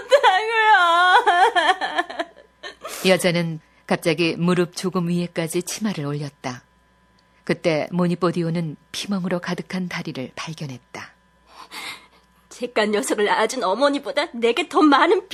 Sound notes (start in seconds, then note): 0.0 laughs